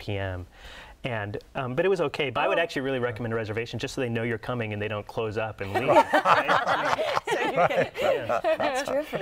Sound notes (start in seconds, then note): 5.7 laughter